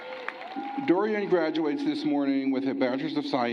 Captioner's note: cheering and applause